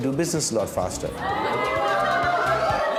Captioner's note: women laughing